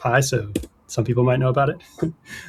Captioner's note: laughter